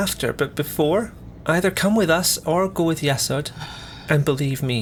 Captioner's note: sighs